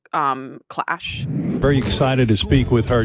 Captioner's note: screen whooshing